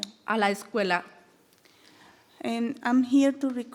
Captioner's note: speaking in foreign language